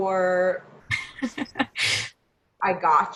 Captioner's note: laughs